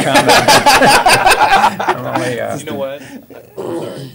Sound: laughter

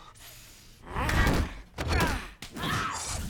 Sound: both grunting

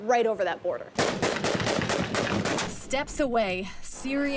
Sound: gunshots fired

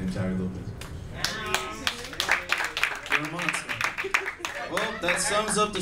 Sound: audience claps

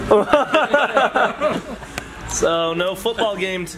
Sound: all laughing

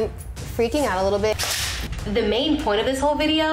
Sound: loud snap

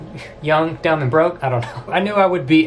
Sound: laughs

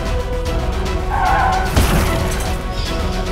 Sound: tyres screeching

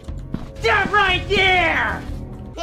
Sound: unknown nasal voice

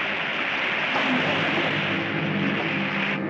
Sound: water splashing; tense, dramatic orchestral music

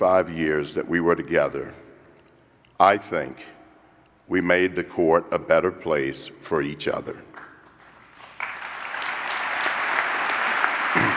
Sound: applause

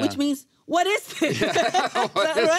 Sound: laughing

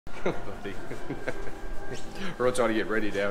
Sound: laughing

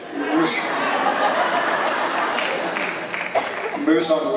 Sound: laughter

